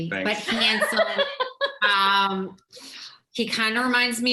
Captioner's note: laughs